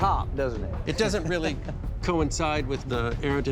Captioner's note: chuckles